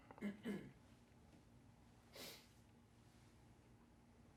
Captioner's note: clears throat